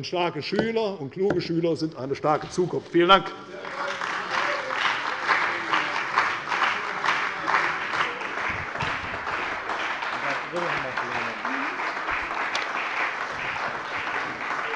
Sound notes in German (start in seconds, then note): 3.4 Beifall bei der CDU und dem BÜNDNIS 90/DIE GRÜNEN